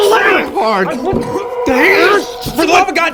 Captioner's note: sounds of struggling